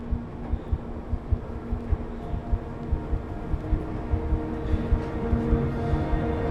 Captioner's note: faint chattering